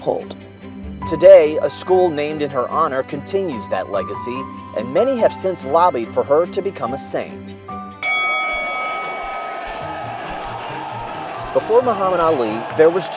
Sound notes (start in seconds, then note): 8.3 crowd cheering; 9.5 bell ringing; 10.7 upbeat music